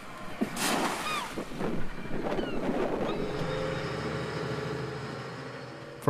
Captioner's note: water splashes